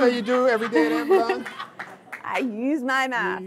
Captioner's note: audience laughing